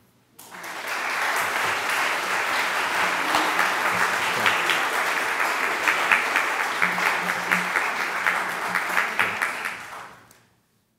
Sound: applause

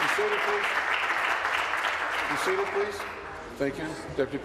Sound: applause

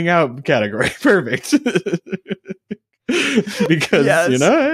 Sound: laughing

